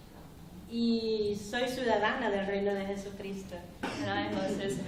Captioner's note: speaking spanish